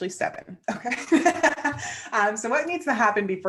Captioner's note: laughs